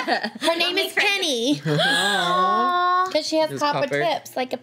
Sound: group laughs; group awws

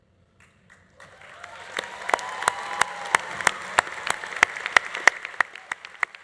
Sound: audience applauding; audience cheering

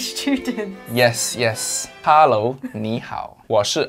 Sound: speaks in Mandarin

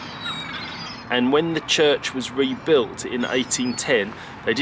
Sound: more seagulls squawking

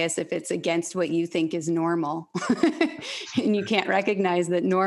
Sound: laughs

